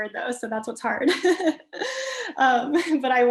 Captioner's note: chuckles